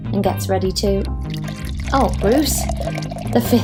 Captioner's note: urination sound